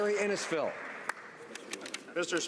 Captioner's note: speaking Alternate Language; applause